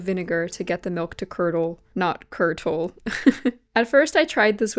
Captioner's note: laughs